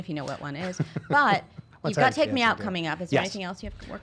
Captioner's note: laughing